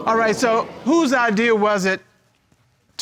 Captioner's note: audience exclaiming